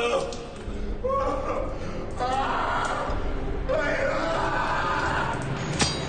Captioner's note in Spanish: Gritos